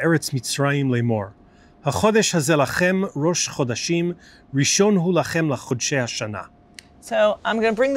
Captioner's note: Hebrew